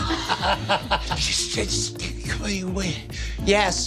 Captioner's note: stammering nervously